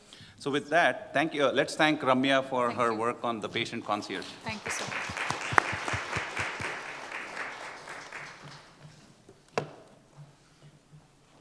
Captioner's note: applause